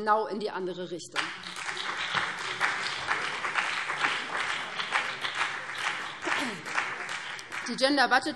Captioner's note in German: Beifall BÜNDNIS 90/DIE GRÜNEN